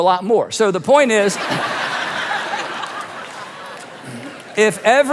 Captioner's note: audience laughing